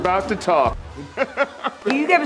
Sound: laughter

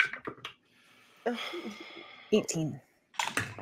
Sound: dice clacking

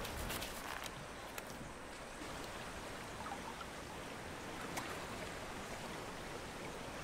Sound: wind gently hissing; water trickling

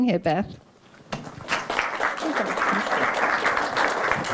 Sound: applause

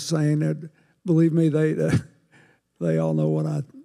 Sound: chuckles

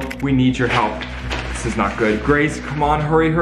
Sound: paper rustling

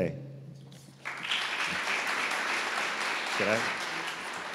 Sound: audience applauding

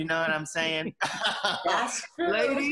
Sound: laughs

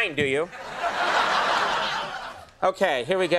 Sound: crowd laughs

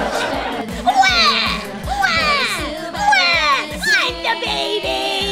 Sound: laughter; imitates crying baby

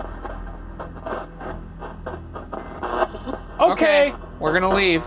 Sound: static buzzing

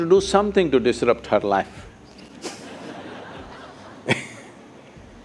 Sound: laughter

